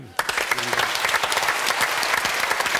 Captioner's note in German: Applaus